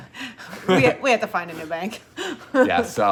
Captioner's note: chuckles